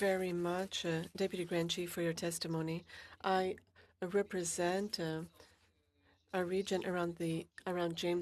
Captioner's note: speaking French